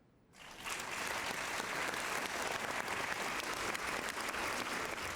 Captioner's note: applause